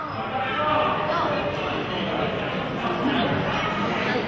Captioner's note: audience chattering